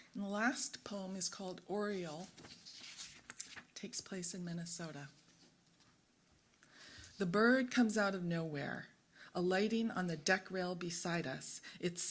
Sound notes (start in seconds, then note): none